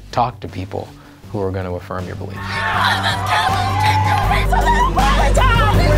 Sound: students screaming

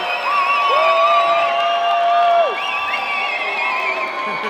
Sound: crowd cheering and applauding; whooping

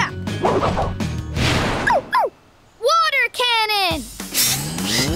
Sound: barking

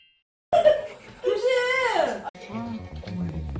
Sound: awkward laugh

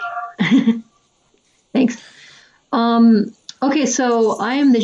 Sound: laughs

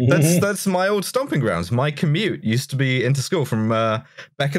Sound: none

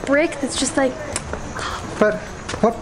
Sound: kisses

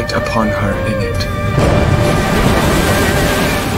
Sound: thunder

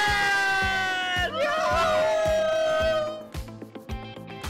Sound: cheering; upbeat music continues

